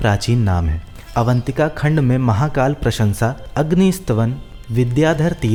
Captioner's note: fire